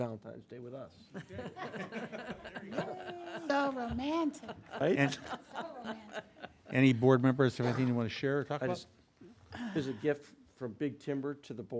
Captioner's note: laughter